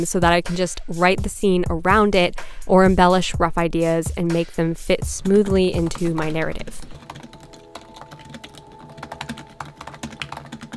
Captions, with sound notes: so that I can just write the scene around it or embellish rough ideas and make them fit smoothly into my narrative. (keyboard clacking)